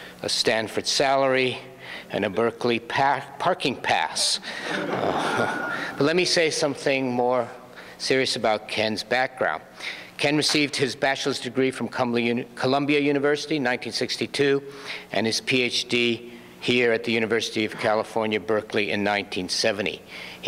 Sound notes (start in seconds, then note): 4.5 audience laughs; 5.5 audience member whistles